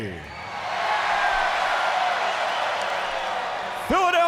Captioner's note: fans cheering